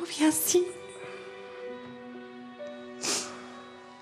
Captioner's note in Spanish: sollozos